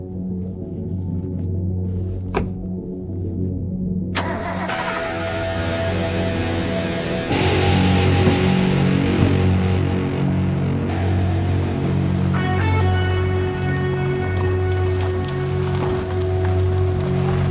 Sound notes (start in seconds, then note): 2.3 car door slams; 4.3 car starts; 12.7 brooding synth rock music continues